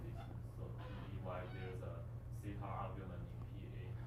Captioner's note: faintly speaking; faintly speaking